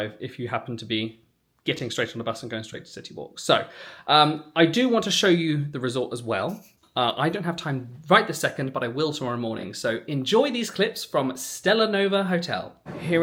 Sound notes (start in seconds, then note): none